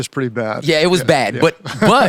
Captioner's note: laughs